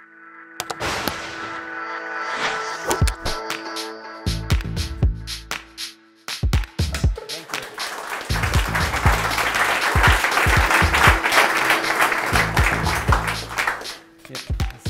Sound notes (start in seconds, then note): 3.3 energetic music; 7.0 applause